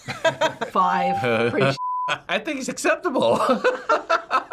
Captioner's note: laughs; both laugh